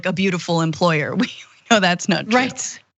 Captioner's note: laugh